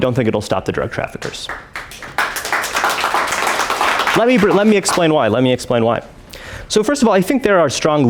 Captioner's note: applause